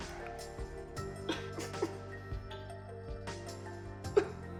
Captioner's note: crying